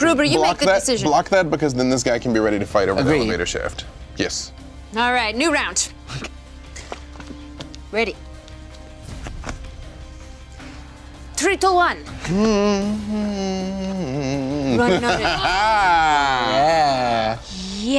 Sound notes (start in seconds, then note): 12.2 humming; 15.5 laughing